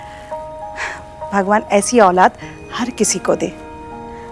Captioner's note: Padimini gasps